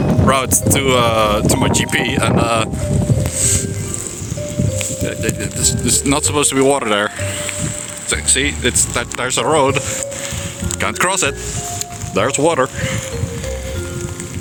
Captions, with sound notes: route to uhhh. To my GP. And uh. [Sniff] Th- th- that there's there's not supposed to be water there. Sa- See. It's that- there's a road. Can't cross it! There's water! [Wheeze]